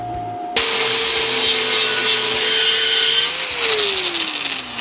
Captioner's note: grinding